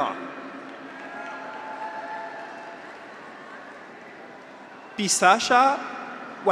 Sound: graduates cheer; audience applauds

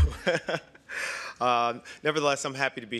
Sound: laughter

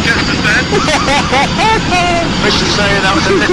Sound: laughter

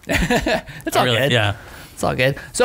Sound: laughter

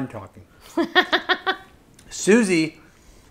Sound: laughing

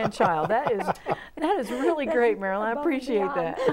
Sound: laughing

